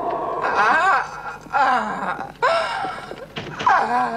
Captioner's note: moaning